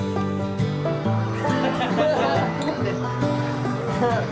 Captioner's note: laughing